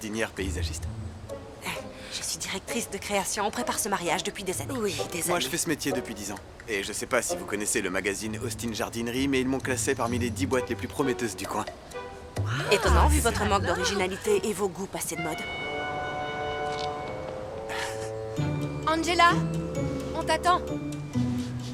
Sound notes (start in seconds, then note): 17.6 scoffs